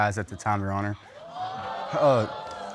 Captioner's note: audience gasping